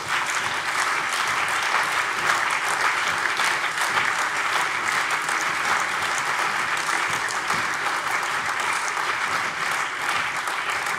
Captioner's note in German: Lebhafter allgemeiner Beifall